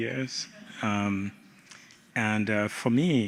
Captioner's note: laughter